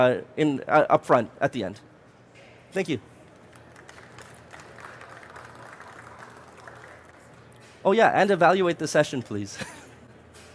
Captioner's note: applause